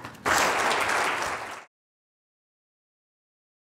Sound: applause

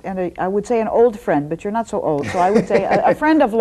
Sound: laughs

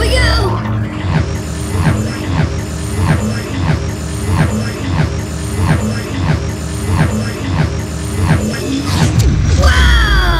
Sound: heavy pulsating whoosh sounds

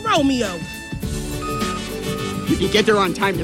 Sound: beeping sound

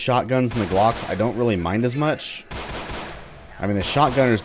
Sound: Glocking continues

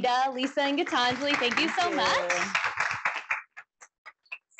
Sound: applause

